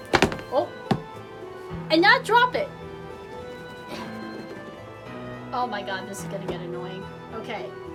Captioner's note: drops box